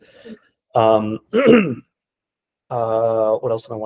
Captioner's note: clearing throat